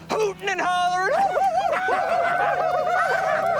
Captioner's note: hoots